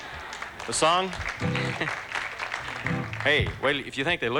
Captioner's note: applause